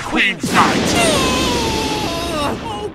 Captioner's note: Yugi grunts in pain